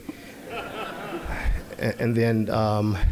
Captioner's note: audience laughing